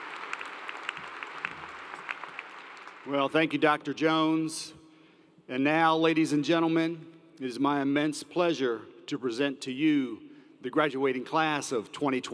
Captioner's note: applause